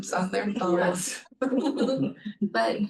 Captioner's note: laughter